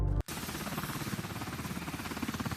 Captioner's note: helicopter Whirs